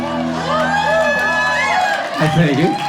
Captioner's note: crowd cheering